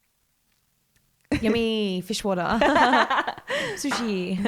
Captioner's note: laughs